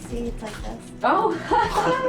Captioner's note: all laughing